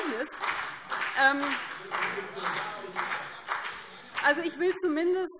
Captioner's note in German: Vereinzelter Beifall CDU und BÜNDNIS 90/DIE GRÜNEN